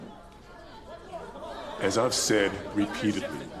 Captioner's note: people clamoring